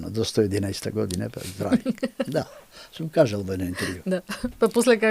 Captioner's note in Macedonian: смеа